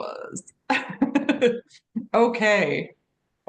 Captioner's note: laughs